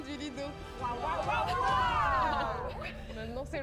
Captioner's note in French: cri de guerre